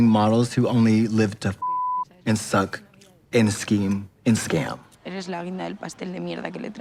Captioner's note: beep